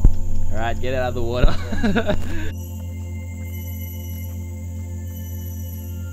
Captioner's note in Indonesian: laugh